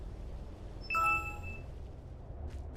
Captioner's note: windows vista shut down sound